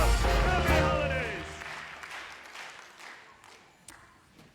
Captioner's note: clapping